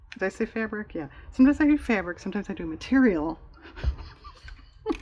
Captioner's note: laughs